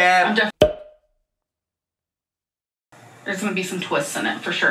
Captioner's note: slide pops